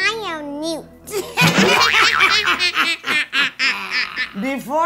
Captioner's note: witchy laughing